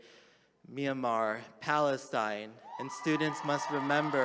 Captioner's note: attendees applauding